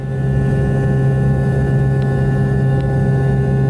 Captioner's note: plane engine buzz